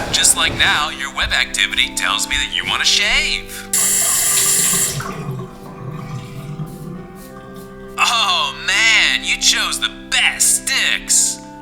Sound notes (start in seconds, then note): 3.8 running sink water